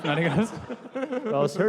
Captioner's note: laughter